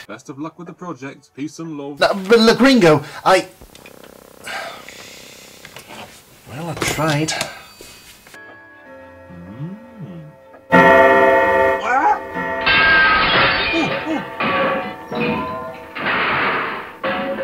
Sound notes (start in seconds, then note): 10.8 clock chimes loudly; 12.6 glass smashes; 14.6 crash